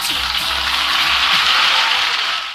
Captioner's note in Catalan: Aplaudiments